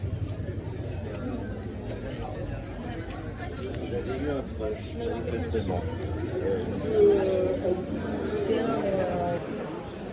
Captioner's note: voices